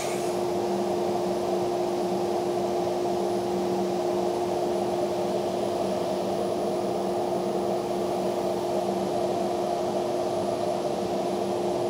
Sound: sander humming; machine whirring

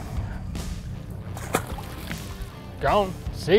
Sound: splash

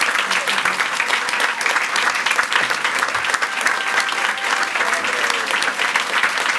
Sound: audience continues to applaud and cheer

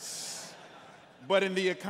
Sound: congregants laughing

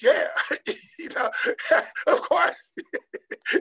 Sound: laughing

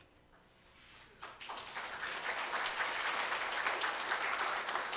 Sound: clapping

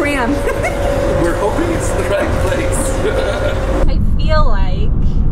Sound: laughs

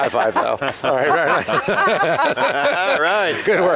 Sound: laughter

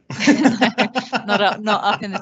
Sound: laugh

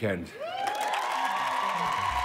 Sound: audience cheers

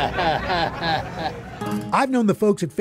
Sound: chuckles

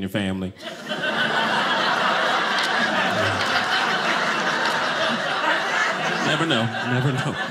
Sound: audience laughing

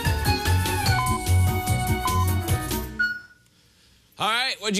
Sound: beeping countdown

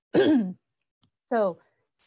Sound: clears throat

